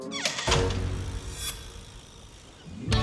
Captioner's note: door shuts